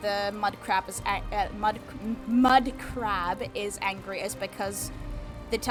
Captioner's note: struggles to say "Mudcrab"